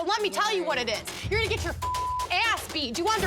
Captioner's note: beep